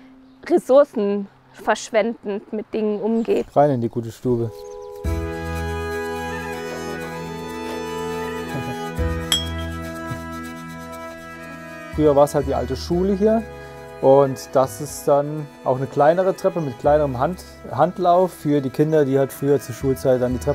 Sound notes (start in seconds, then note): 5.1 moving music; 9.3 ringtone